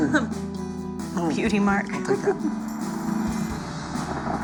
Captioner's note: car pulls up outside